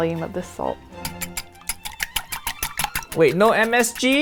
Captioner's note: whisk and bowl clinking